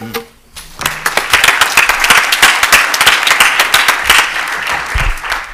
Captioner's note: applause